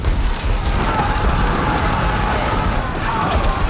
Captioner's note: men yelling and grunting